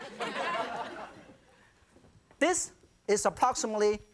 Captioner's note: audience chuckles